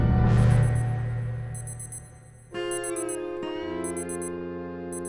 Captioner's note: alarm rings; slow country twang